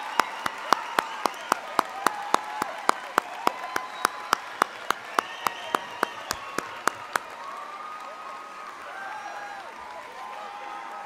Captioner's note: applause